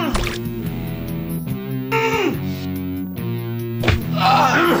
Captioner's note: water splashing; punches hitting